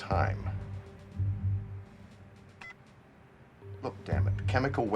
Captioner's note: beeps